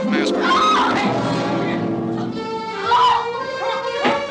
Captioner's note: screams; barbra screams